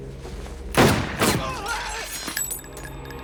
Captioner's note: firing; man yelping